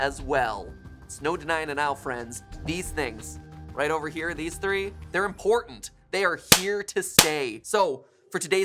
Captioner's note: smacc